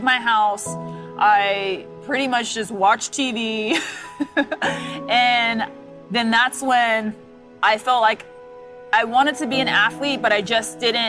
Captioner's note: laugh